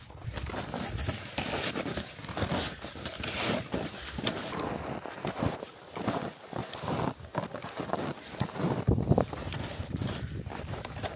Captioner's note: the pleasant sound of snow crunching underfoot